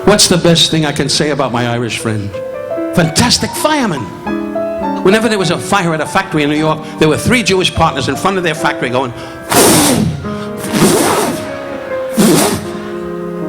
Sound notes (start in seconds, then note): 9.1 Don blowing heavily; 12.2 audience laughing